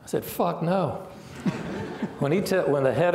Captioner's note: laughing